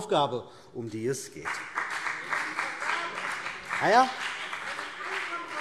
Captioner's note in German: Beifall CDU und BÜNDNIS 90/DIE GRÜNEN - Zurufe